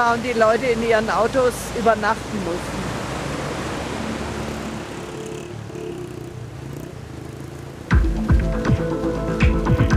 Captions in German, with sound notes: und die Leute in ihren Autos übernachten mussten. (Rauschen) (Abenteuerliche Musik)